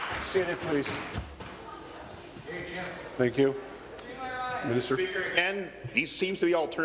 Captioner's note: applause